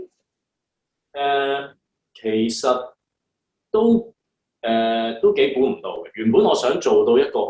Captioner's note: Cantonese